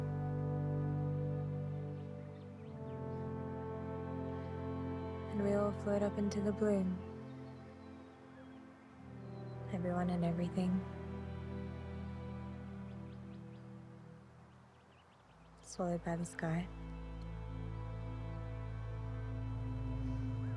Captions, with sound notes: (gentle music) (birds chirping) (gentle music) And we all float up into the blue. Everyone and everything. (gentle music) (birds chirping) Swallowed by the sky. (gentle music)